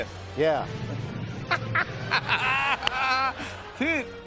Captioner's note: laughter